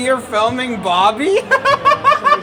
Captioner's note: laughing